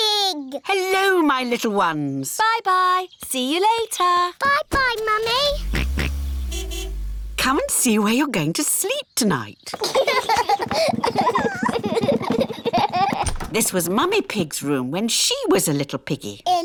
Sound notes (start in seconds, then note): 5.2 car horn honks; 5.2 george oinks; 9.7 children laugh